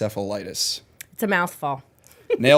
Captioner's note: chuckle